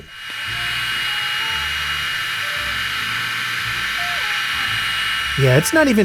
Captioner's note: high RPM fans do their thing